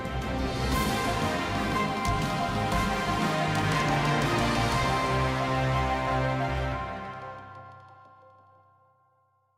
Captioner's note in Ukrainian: оплески